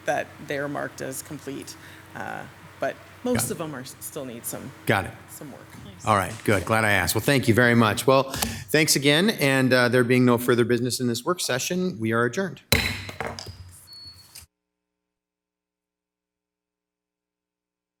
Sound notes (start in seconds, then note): 12.7 table bangs